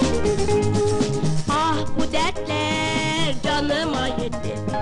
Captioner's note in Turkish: none